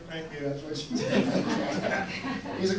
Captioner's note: audience laughs